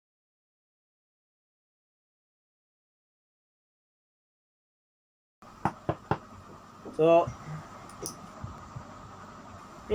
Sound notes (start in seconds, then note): 5.6 knocks door